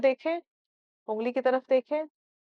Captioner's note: in Urdu